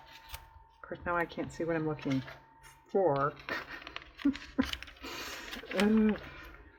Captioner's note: laughs